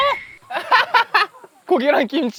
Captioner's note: laughs